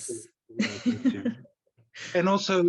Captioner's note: laugh